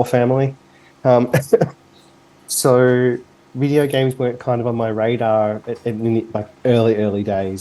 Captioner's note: cough